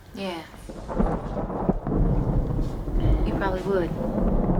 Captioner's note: thunder & lightning